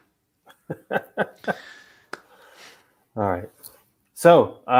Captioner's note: laughing